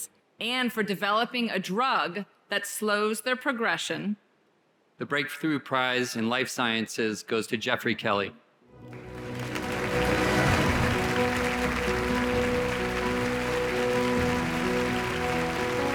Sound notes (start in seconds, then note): 8.8 audience applauds